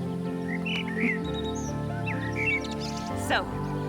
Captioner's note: laughing; birds chirping